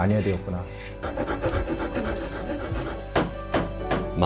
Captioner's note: sawing sound; hammering sound